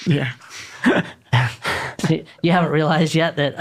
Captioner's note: chuckling